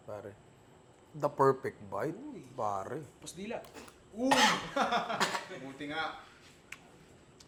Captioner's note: coughs